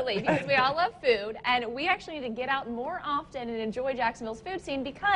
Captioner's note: laughs